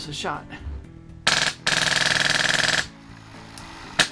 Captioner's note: rapid clicking